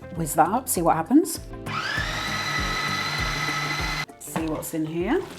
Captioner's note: food processor rumble